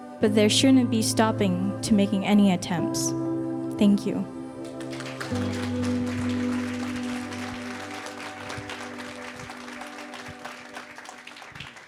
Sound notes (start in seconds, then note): 4.6 audience applauding; 4.8 inspiring music continues